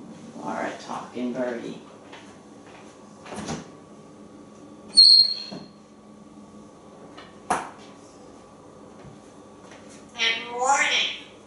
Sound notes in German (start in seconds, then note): 4.9 whistling